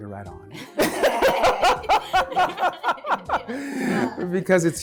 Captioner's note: LeVar laughing